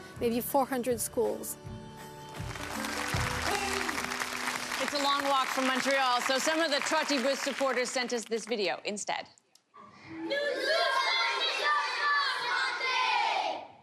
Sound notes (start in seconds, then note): 2.3 audience applause; 11.9 speaking French